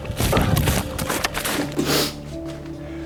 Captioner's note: Roger sniffles